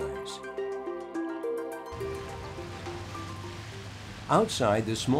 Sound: car Driving

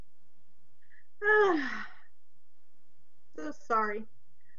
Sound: sighs heavily

